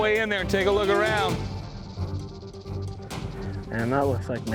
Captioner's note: snake rattling